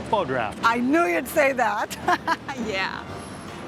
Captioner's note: laugh